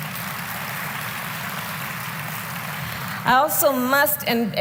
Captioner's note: applause